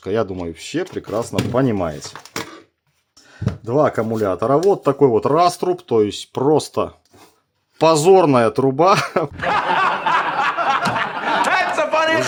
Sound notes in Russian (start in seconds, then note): 8.9 смех